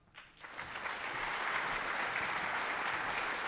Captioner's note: clapping